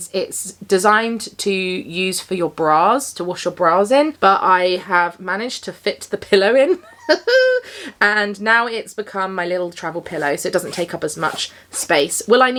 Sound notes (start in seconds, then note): 6.7 chuckles